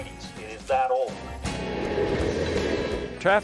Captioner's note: rumble of train